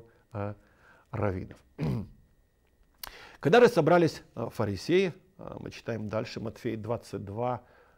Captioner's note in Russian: откашливается